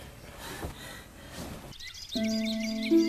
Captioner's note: Kate breathing frantically; light, mysterious harp music